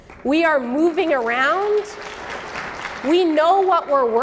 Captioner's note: audience clapping